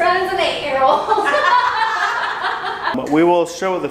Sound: laughing together

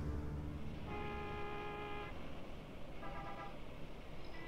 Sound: car horns beeping

